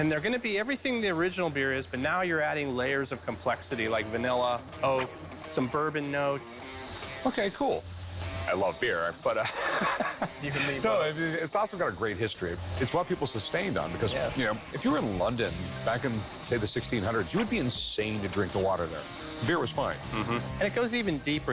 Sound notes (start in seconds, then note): 9.4 laughs